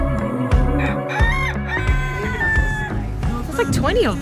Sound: rooster crows

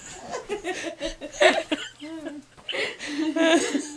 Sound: laughing

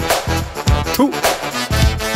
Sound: spits

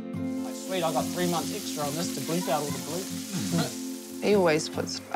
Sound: laughter

